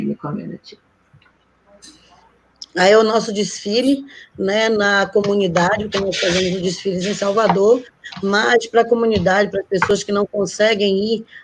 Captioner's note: speaking Portuguese